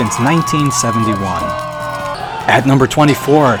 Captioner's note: crowd cheering